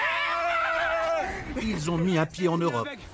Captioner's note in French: cris de joie